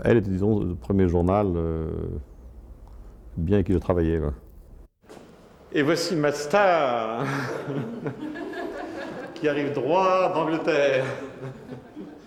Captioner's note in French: rires